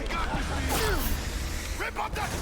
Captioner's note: speaking in foreign language